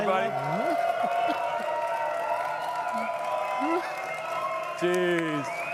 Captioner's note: audience cheering and clapping